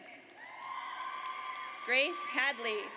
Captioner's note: audience cheers